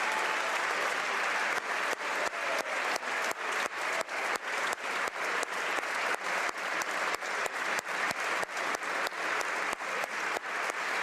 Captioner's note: applause